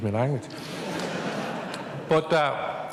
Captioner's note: laughter